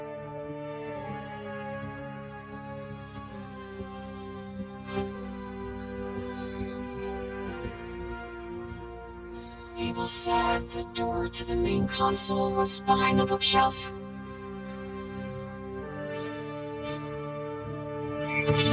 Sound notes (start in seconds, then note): 5.7 orb shimmering